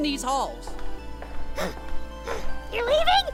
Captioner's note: panting